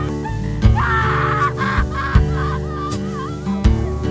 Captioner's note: sobs